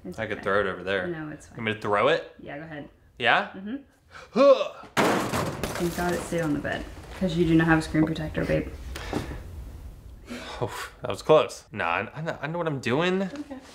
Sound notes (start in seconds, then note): 4.3 grunting; 4.9 phone smashing